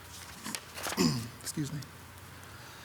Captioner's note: clears throat